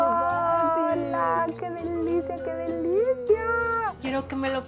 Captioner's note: speaking Spanish